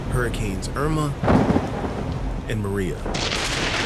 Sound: thunder booming; lightning crackling

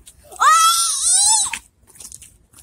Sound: screaming

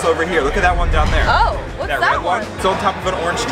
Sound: dramatic bang

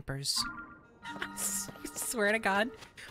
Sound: laughing

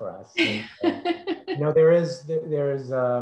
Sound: laughs

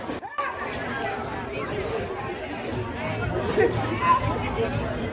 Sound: crowd yelling and murmuring

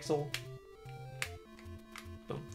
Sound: D-Pad clicks

